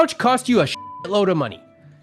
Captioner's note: beep